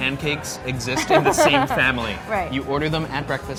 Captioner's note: laughing